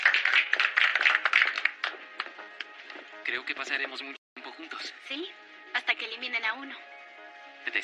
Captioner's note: applause